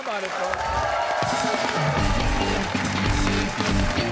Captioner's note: cheers and applause